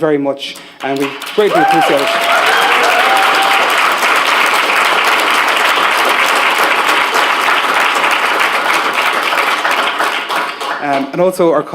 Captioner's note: applause